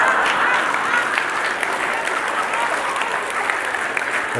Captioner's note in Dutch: gelach en applaus